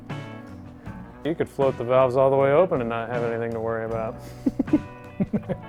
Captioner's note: laughs